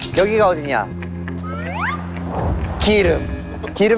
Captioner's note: swoosh